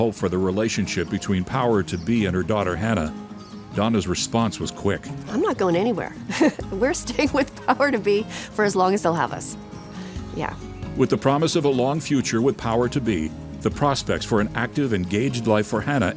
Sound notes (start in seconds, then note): 6.2 laughs